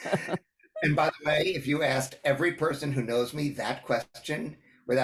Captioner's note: laugh